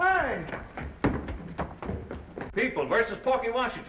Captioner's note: footsteps receding